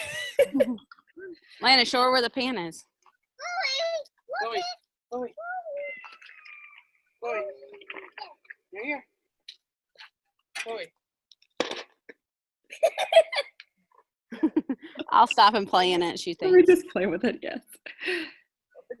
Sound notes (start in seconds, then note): 0.0 chuckles; 5.7 cat meows; 12.8 giggles; 14.3 chuckles